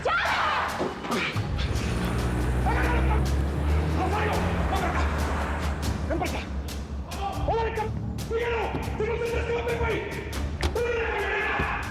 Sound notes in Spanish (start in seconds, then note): 3.6 Gritos y exclamaciones